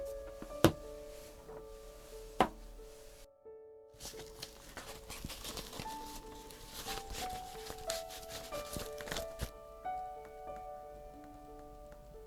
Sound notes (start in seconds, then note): 0.1 pattern weights gently thunk; 4.0 paper rustling